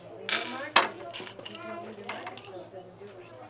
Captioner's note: chatter